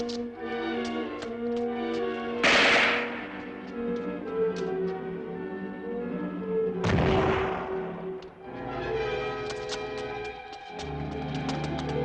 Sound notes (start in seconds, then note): 2.4 gun fires; 6.8 explosion booms